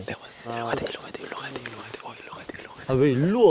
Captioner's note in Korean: 귓속말